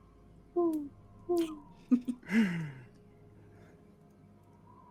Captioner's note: imitates an owl